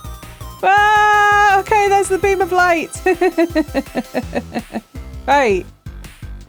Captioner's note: laughing